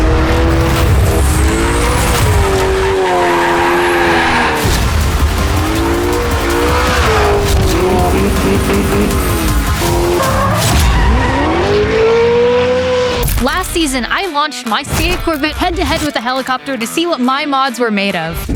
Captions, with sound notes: (tires screeching) - Last season, I launched my C8 Corvette head-to-head with a helicopter to see what my mods were made of.